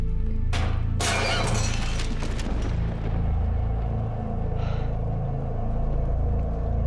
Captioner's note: ominous music; glass breaking; Jill gasps